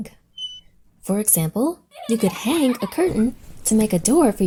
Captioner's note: hanger squeaks; children laugh